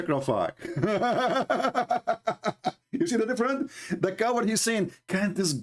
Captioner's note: Ketawa